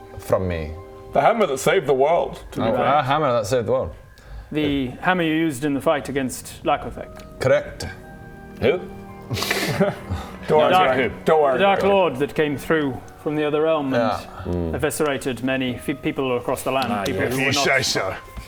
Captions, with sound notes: from me the hammer that saved the world That hammer, that saved the world The hammer you used in the fight against Lako'thec? Correct Who? *scatterbrained laugh* Don't worry Greg - The darklord that came through - don't worry about it from the other realm and hmm eviscerated many people across the land - people who were not - ah yeah - if you say so